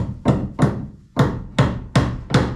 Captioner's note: hammering